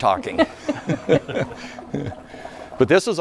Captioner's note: laughing